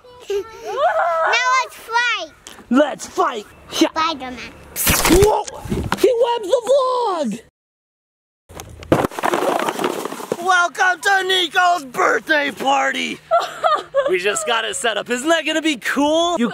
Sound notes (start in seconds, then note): 0.3 giggles; 8.6 boxes clattering; 13.3 laughs